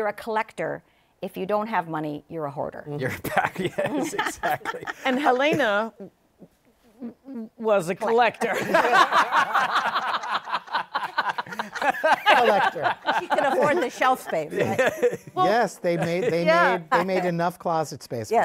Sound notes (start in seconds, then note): 3.2 laughing; 8.4 laughter